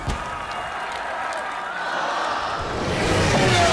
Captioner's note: cheering